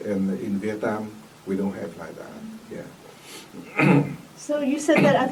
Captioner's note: coughs